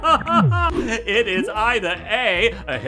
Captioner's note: laughing